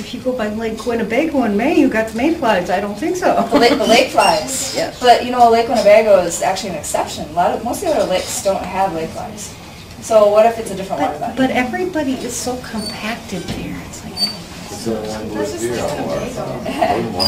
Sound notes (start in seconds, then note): 0.2 voiceover; 3.4 chuckles; 11.8 voiceover